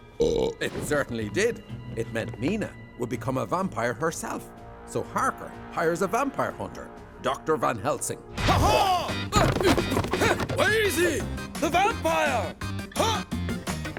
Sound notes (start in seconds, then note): 0.1 burps; 9.3 grunting